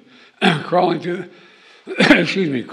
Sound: coughs

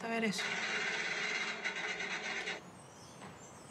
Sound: gunfire shots

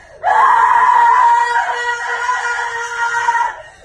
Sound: screaming

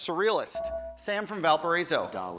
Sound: buzzer

